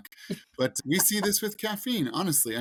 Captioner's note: host laughs